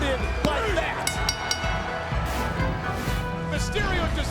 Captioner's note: bell rings